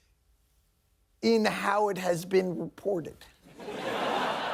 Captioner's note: laughing